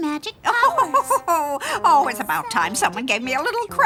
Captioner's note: laughs